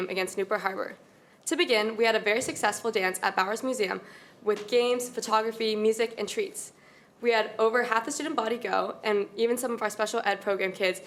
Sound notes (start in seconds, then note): none